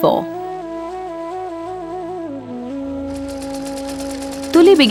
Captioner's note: soft spiritual music; needle thudding